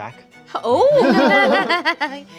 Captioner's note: laughing